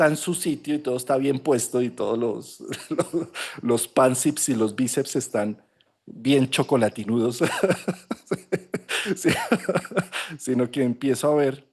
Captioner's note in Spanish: risas